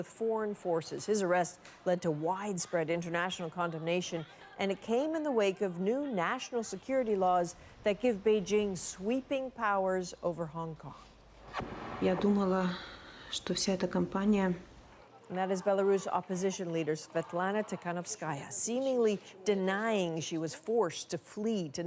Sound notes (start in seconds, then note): 13.3 speaking Foreign Language